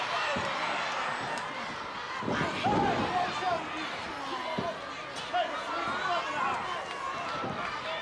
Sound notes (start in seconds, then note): 0.0 audience cheering